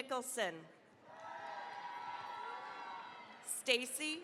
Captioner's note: cheering, applause